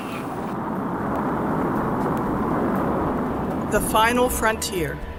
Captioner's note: roaring